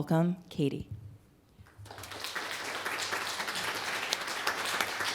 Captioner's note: applause